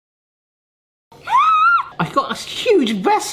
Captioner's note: screams